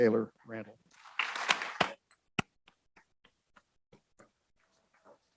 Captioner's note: audience applauds